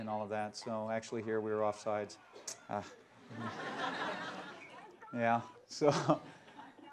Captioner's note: laughter